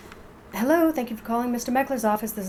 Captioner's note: phone ring